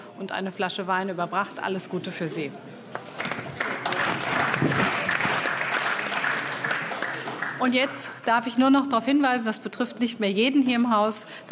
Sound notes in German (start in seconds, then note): 3.1 Beifall AfD